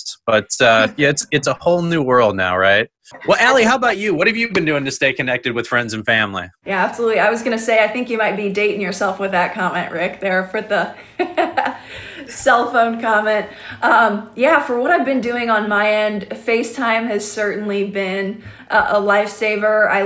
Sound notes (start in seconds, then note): 10.9 laughs